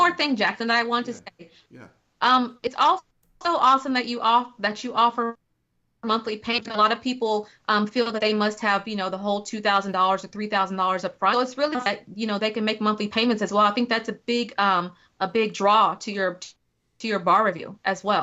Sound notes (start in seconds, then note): 11.9 technical interference